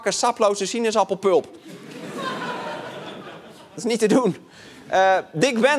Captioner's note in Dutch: gelach